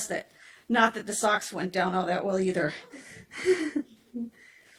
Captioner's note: giggles softly